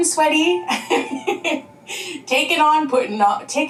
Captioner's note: laughing